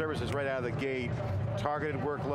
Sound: finger snap

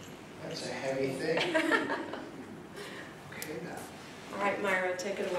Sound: laughing

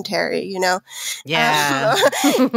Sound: all laughing

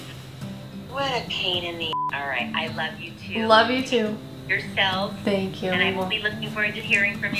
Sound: beep

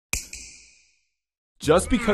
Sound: snap

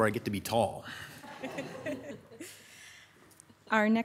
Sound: audience laughing

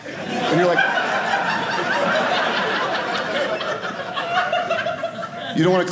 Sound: audience laughing

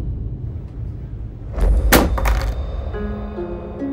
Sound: tense music playing; clattering

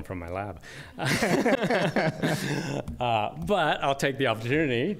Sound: laughter

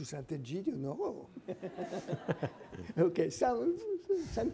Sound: audience laughing

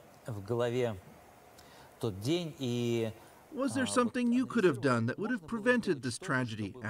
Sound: speaking russian

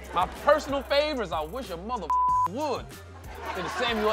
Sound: beep

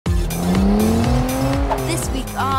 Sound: car revving

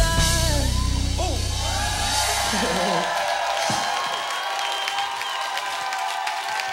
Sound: audience cheers

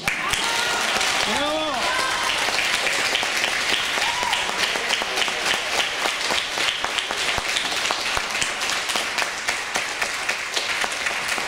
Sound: applause

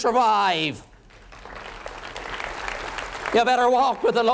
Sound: applause

